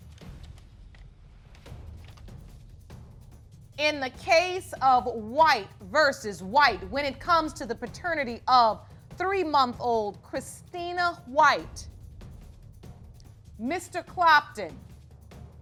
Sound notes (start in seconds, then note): none